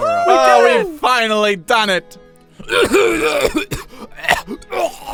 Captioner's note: Charles coughs violently